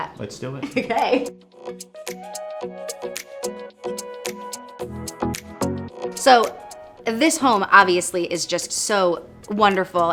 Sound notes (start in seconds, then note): 0.6 giggles; 2.8 light upbeat music